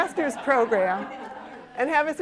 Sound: laughter

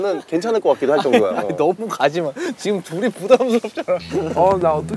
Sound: ha ha

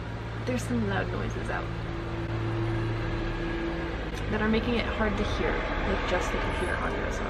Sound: truck drives by loudly

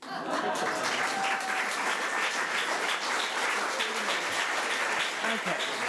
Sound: audience applauding; audience laughing

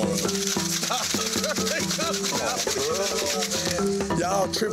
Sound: rocks rattling; laughing

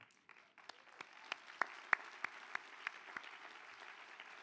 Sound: applause

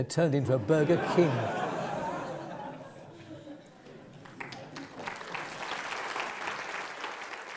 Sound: laugh; applause

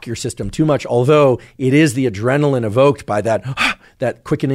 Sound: gasps

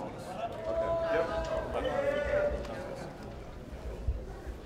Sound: audience chattering

